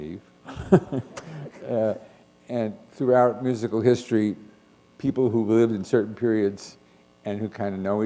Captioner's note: chuckle